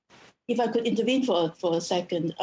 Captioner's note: speaking French